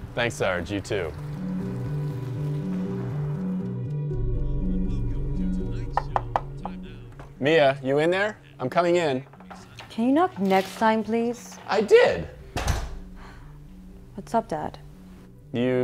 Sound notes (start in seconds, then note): 1.5 suspenseful music; 6.0 knocking; 12.5 door shuts